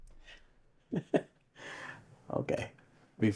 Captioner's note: Q laughs